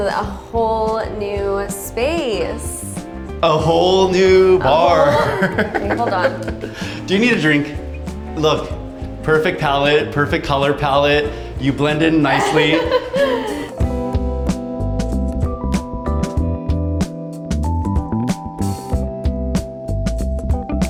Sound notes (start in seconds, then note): 4.7 laughing; 13.1 upbeat music